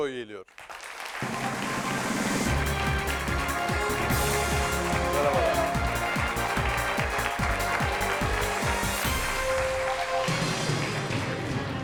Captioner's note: applause